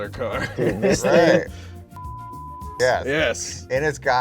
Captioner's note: chuckles; tone beeping